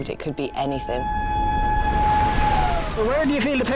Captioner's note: alarm blaring